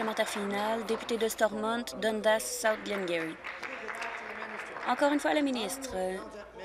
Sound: applause

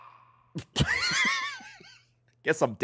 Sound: laughs

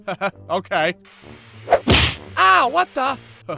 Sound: whoosh-thwack!

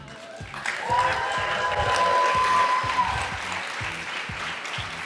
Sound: audience claps and cheers

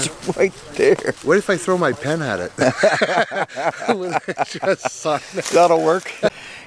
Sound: laughing

